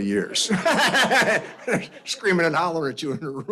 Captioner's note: laughter